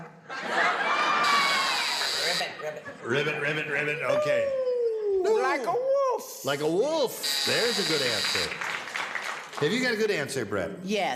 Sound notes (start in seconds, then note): 7.2 buzzer sounds